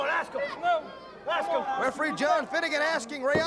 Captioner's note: crowd chatter